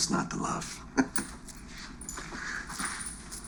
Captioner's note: chuckles